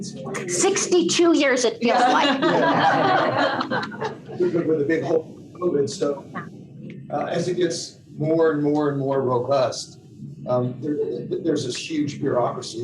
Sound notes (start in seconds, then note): 2.0 laughter